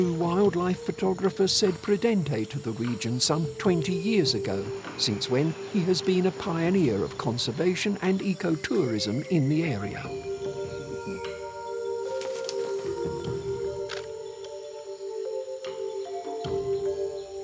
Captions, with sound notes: wildlife photographer Cede Prudente to the region some twenty years ago, since when he has been a pioneer of conservation and eco-tourism in the area. [camera clicks]